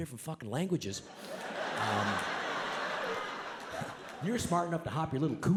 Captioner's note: audience laughs